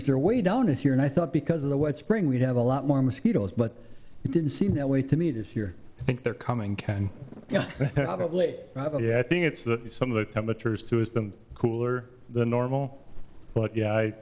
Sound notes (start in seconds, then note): 7.4 laughs